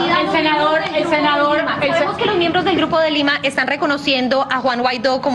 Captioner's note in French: plusieurs voix